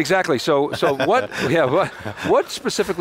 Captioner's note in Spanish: risas; riendo